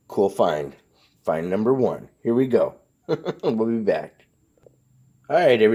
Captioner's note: chuckles